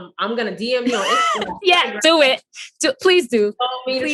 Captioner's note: laughs